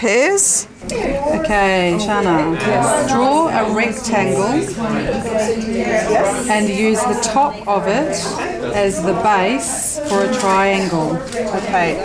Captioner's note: audience chatter